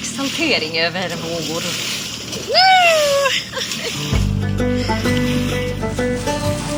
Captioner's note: shrieking